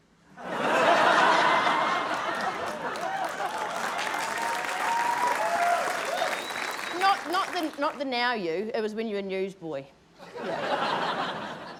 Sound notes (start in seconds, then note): 0.4 laughter; 3.0 cheering, applause